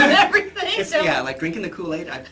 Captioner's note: laughs